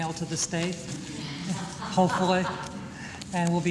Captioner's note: laughter